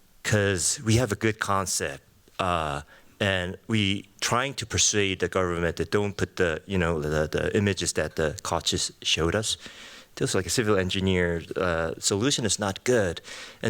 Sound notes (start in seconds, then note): none